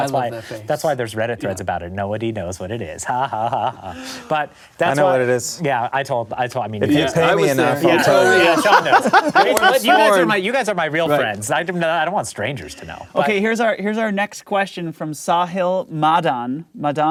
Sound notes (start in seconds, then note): 3.8 gasp; 8.5 laughing